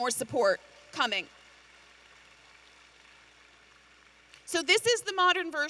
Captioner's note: audience applauding